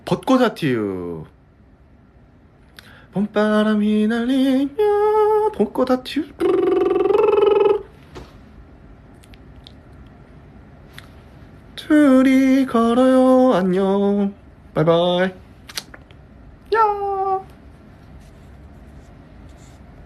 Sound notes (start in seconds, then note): 5.8 hums